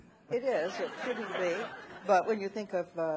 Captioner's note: audience laughing